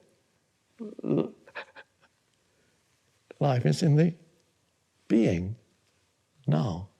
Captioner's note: chuckles